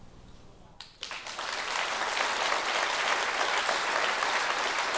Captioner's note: attendees applauding